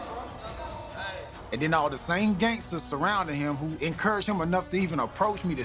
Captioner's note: none